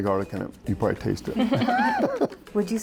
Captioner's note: laughter